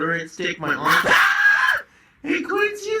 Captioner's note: dog barking